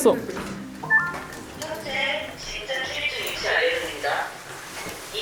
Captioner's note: radio announcement